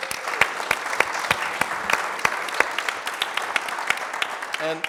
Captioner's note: audience applauding